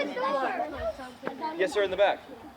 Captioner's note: children chattering